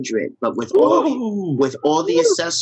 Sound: all gasping

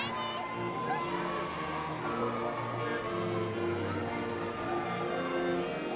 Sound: indistinct chatters; upbeat music

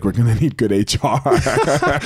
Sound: both laughing

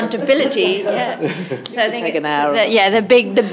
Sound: chuckles

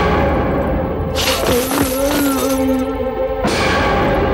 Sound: groans

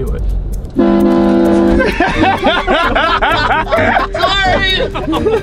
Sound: train horn blows; laughing

